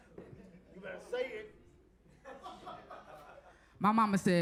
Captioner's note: audience laughs